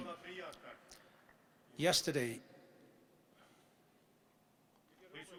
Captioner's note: people speaking in German